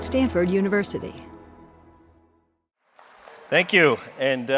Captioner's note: applause